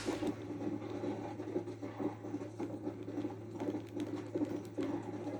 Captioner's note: sounds of galloping horse